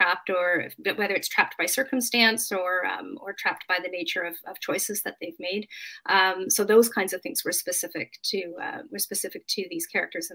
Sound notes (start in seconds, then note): none